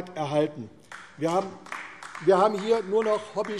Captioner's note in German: Beifall AfD